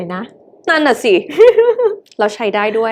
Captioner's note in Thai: เสียงหัวเราะ